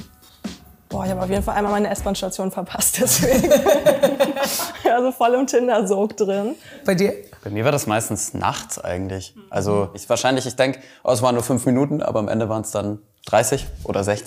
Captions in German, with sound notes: Boah, ich hab auf jeden Fall einmal meine S-Bahn-Station verpasst. (Lachen) Ich war so voll im Tinder-Sog drin. - Bei dir? Bei mir war das meistens nachts eigentlich. Ich denk, es waren nur fünf Minuten, aber am Ende waren's 30 oder 60.